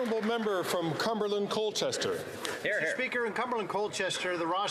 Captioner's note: applause